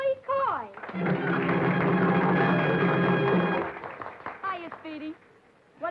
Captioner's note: audience applauding